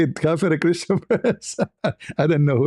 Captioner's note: ketawa